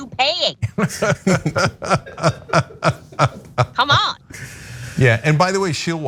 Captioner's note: laugh